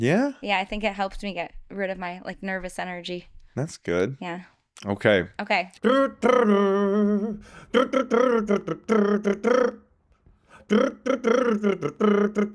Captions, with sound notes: Yeah? Yeah, I think it helps me get rid of my nervous energy. That's good. Yeah. Okay. Okay. (humming)